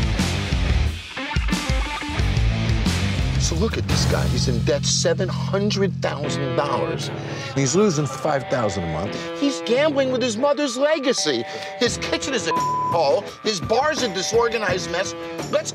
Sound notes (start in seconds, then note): 0.1 rock music; 12.4 beep